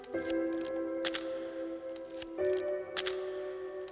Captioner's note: camera clicks